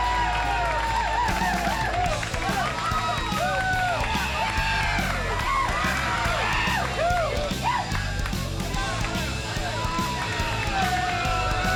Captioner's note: crowd cheering